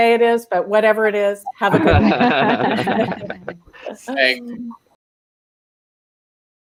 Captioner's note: everyone laughing